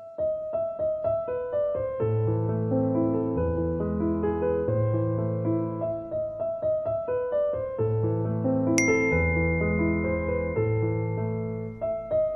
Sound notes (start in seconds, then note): 0.1 serene classical music; 8.8 bell ringing